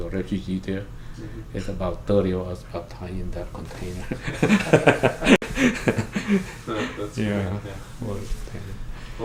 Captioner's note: laughs